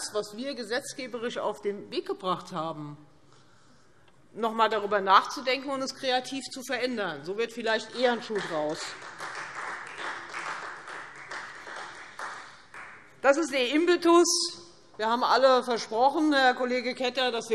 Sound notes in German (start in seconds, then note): 8.0 Beifall Freie Demokraten